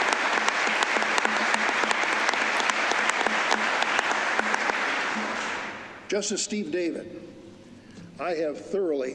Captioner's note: applause